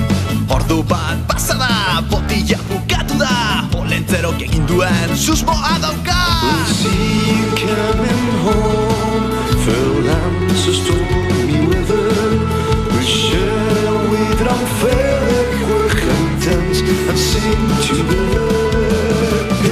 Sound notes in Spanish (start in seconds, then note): 6.3 En escocés dórico